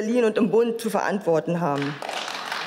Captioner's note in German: Beifall